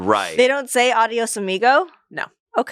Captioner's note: speaks foreign language